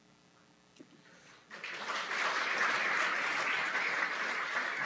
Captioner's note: applause